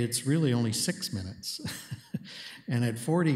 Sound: chuckles

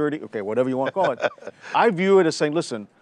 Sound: laughing

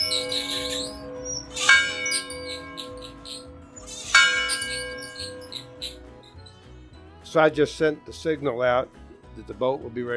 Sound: bell Rings

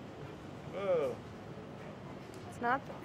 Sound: moans

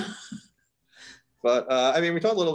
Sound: chuckles

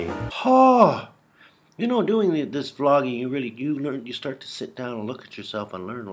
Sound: gasp

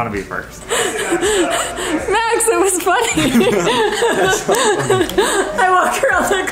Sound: laughing

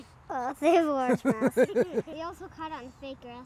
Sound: laughing

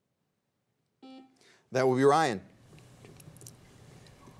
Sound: buzzer beeps once

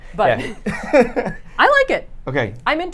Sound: laughs

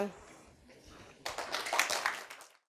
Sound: applause

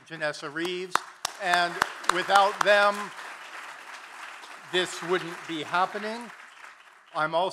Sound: claps

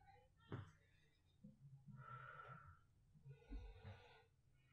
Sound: deeply breathing

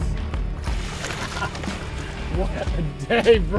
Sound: laughing

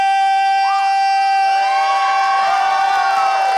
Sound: crowd cheers

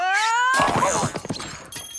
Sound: crash

